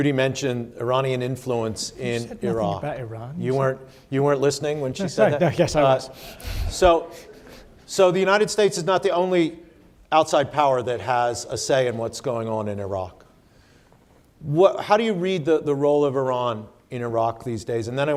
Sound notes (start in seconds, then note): 4.9 laughs; 6.9 audience laughs